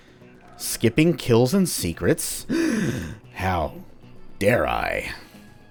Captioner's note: dramatic gasp